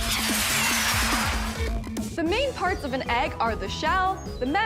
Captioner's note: rockets blasting